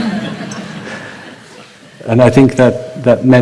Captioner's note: laughter